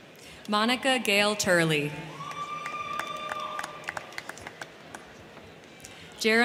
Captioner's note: crowd cheering